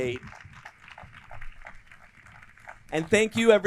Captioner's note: crowd clapping